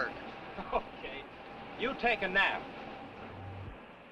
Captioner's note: laughs